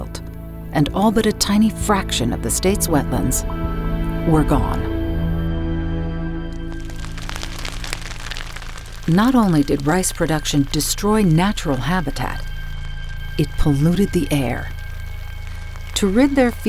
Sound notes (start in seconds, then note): 7.6 crackling ground fire